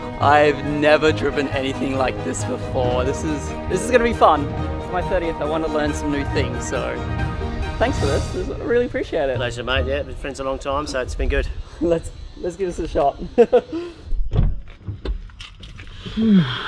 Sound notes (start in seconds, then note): 13.2 laughing